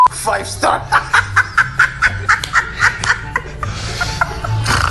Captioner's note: laughs